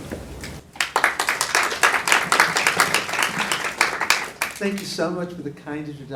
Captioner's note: audience applauding